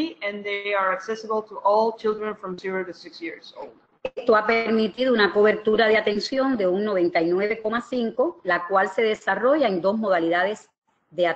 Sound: speaking another language

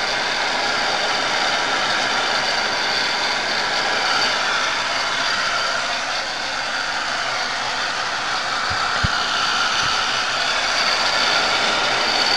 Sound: sound of a Heat Gun

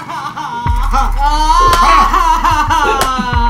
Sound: Mari crying

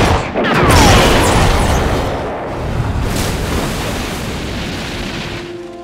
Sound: explosion booms; gun roars

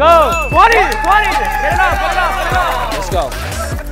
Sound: crowd shouting indistinct; bell dings

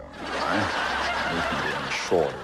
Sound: laughter

